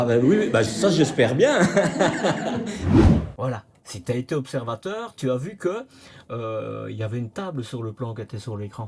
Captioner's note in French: rires